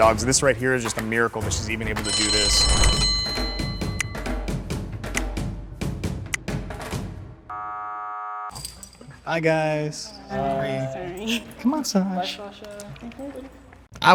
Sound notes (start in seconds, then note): 1.9 bell rings; 3.0 beating drums; 7.5 buzzer sound